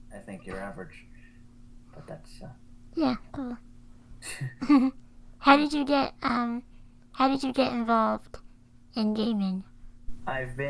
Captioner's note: laugh